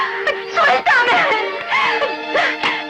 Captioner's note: squeals